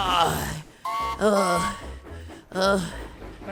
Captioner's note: mac whistles